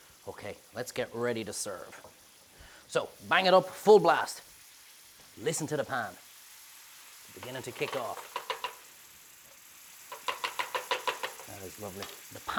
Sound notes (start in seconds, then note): 6.4 pan sizzles